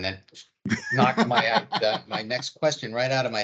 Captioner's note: laughing loudly